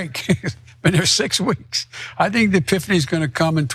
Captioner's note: laugh